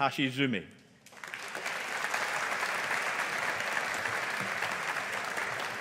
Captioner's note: audience applauding